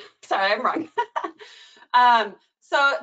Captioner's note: laughing